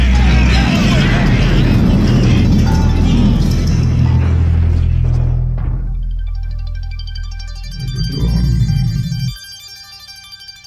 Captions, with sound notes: (quite rumble) Megatron...